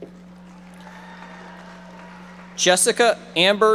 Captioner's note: audience members applauding